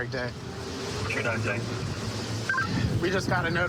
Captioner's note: radio communication